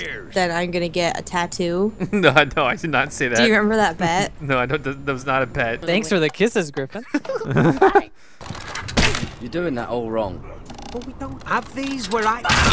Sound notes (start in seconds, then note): 3.7 voiceover; 6.1 voiceover; 7.0 laughs; 8.7 snap